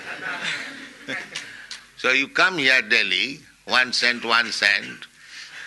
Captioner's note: laughter